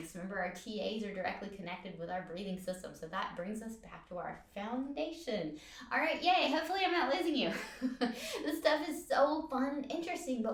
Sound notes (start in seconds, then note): 7.4 laughs